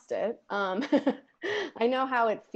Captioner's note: laughs